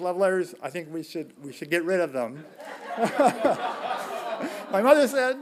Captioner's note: laughing